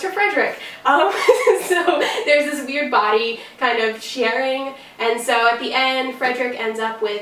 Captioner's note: laughs